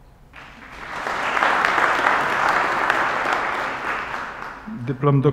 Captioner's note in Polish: oklaski